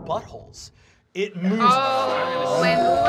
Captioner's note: roaring